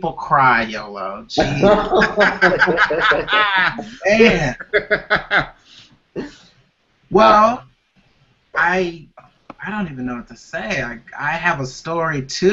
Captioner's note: laughter